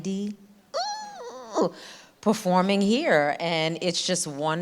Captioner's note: squeals